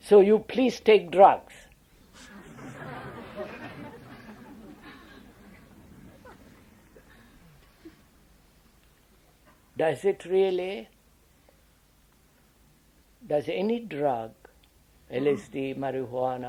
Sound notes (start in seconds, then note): 5.5 laughter